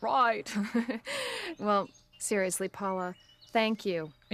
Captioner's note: in Australian accent; without accent